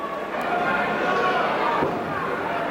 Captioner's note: crowd cheering